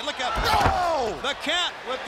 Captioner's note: crowd chatter